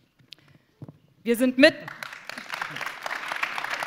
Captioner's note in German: Applaus